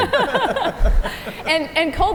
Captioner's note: panel laugh